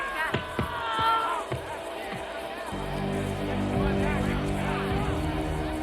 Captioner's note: Cederic screams; suspenseful music; group chattering